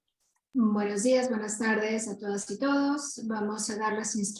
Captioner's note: speaking Spanish